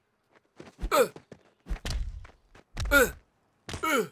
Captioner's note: men shouting